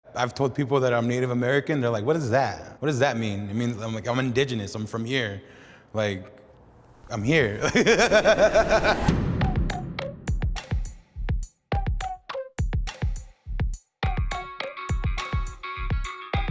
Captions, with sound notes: - I've told people that I'm Native American. They're like, "What is that? What does that mean?" It means I'm Indigenous. I'm from here. Like, I'm here. (laughs) (upbeat pop music)